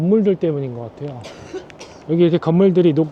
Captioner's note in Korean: 기침 소리